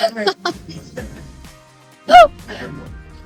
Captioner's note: laughing